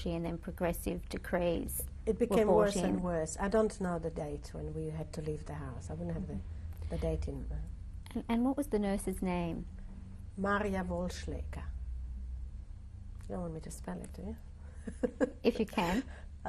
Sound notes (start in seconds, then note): 14.8 laughs